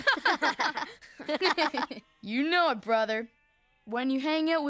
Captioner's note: laughing